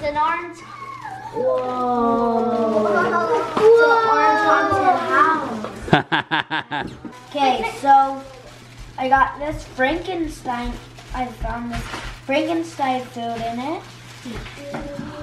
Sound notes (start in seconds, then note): 2.2 kids oooh; 5.8 laughs